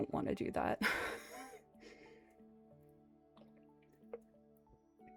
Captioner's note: laughs